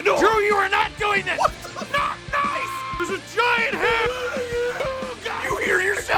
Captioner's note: screaming